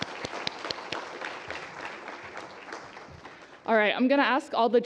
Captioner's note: applause